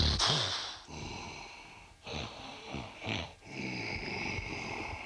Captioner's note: snorting; Ultimate Warrior growling